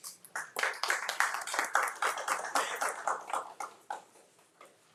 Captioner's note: crowd applauding